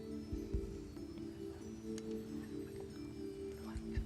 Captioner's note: whispering